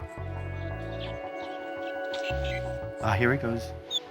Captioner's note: chirping